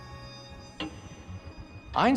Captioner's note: <i> clock's ticking slowing</i>